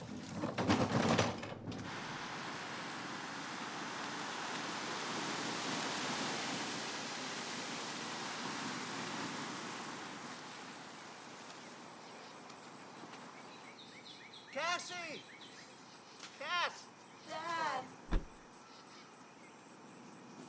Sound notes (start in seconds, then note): 0.0 cart rolling; 5.4 birds chirping; 5.4 car whooshing